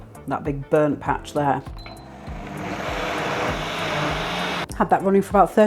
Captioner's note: blender whirring